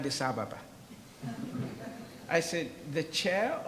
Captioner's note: audience laughs